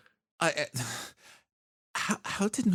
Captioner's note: sigh